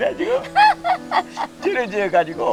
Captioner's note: both laughing